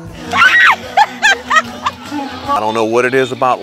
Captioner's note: women screaming in joy